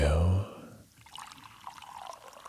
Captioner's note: pouring